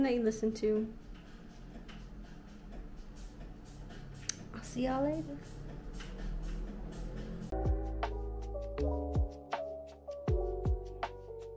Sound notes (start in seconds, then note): none